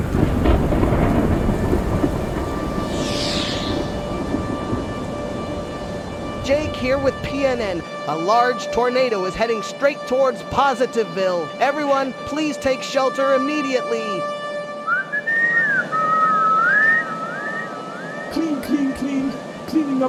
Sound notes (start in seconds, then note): 0.1 tornado siren; 14.8 whistles